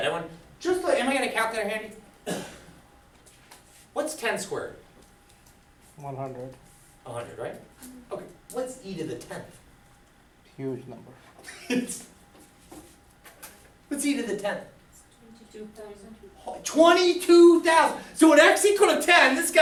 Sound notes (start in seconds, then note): 6.3 voiceover; 10.7 voiceover; 11.4 laughs; 15.2 voiceover